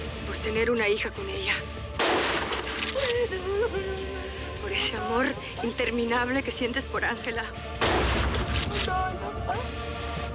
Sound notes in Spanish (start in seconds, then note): 2.0 Disparo; 7.8 Disparo